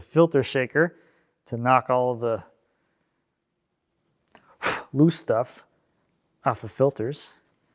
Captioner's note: blows air